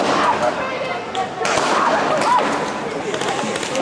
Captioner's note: guns firing